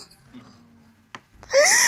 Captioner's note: sobbing